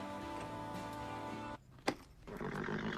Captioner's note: snorts